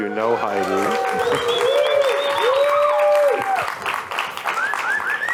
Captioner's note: applause